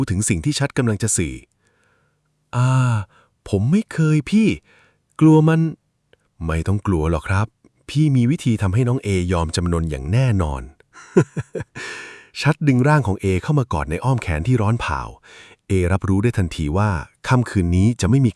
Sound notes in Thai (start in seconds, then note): 11.0 เสียงหัวเราะ